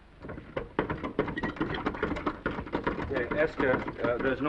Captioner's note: handle rattling